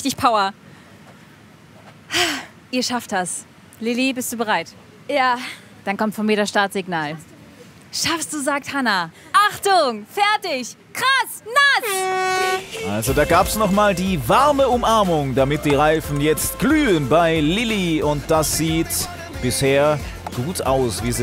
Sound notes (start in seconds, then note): 11.6 Lautes Tröten